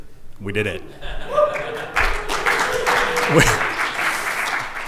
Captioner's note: applause and cheering